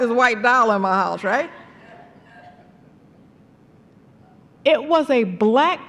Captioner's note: laughter